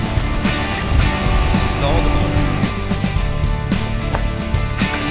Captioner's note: motor turns off